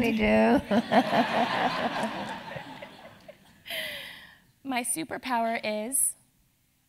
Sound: laugh

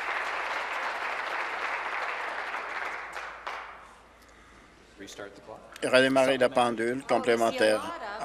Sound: applause

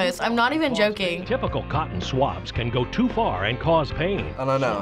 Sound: voice-over

